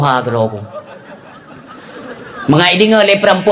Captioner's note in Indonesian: tertawa